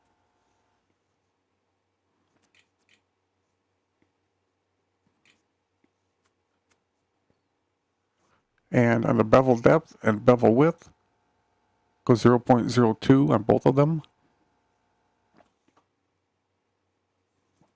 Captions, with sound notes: [ silence ] And on the bevel depth and bevel width go 0.02 on both of them.